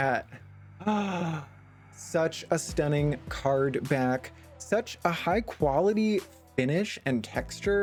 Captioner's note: gasp